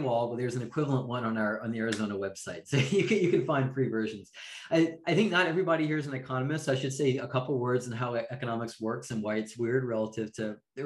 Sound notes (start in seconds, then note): 2.7 chuckling